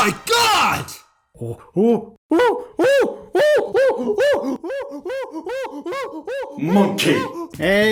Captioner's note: monkey sounds